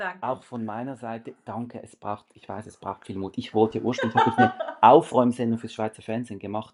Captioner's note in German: gelächter